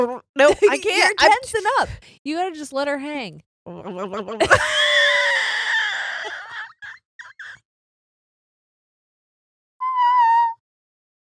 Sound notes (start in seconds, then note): 4.2 laughing